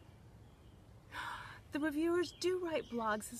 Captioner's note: gasps